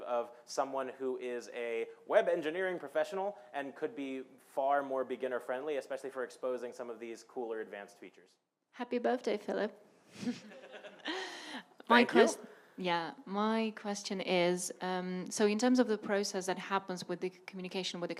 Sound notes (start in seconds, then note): 10.2 laughing